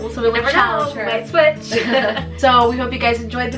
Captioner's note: laughs